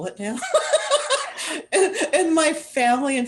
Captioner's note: laughter